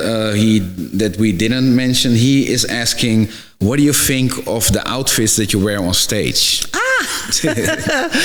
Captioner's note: laugh